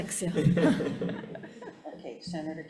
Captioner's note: group laughing